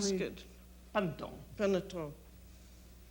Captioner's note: conversing in French